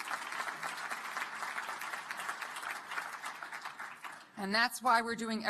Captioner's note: applause